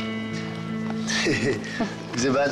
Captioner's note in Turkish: Gülme sesi